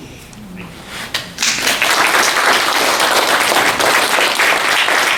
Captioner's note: applause